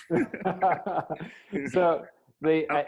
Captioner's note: both laugh